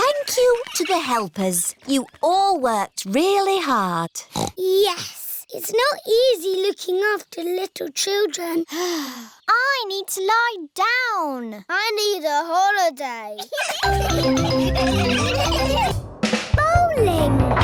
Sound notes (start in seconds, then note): 9.1 sighs; 13.4 all laughing